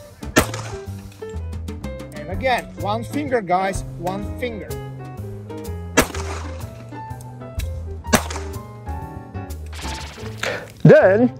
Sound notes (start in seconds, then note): 0.3 pistol fires; 5.9 pistol fires; 10.4 quirky music